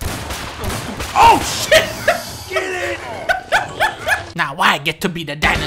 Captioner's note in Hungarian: Nevetés